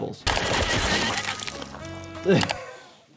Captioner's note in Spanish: Disparos; riendo